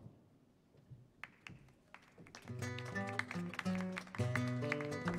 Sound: applause

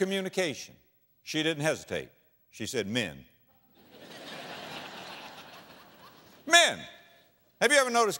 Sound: audience laughter

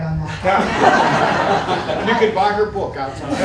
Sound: laughter

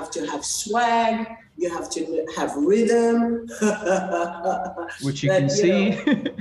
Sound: laughs

